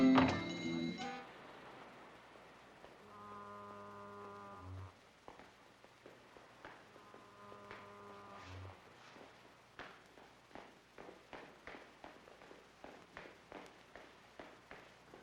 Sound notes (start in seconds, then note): 0.0 door shuts; 3.0 distant fog horn blows; 7.0 distant fog horn blows; 9.8 Johnny's running footsteps